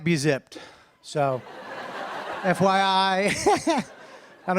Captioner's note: laughter